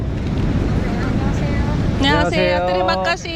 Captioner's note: local people greeting in Korean